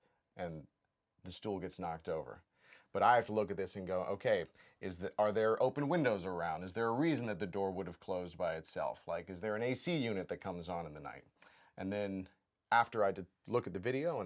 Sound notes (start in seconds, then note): none